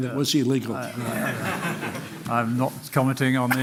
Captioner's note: laughter